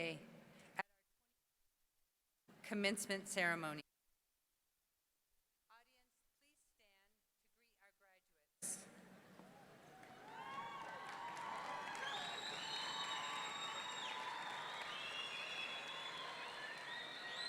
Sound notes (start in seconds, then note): 9.4 audience cheering; 9.4 audience clapping